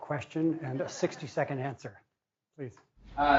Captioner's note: laughing